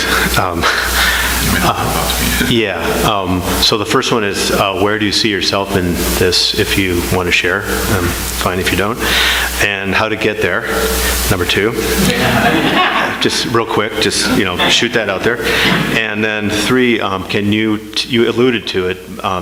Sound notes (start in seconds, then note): 11.8 audience laughing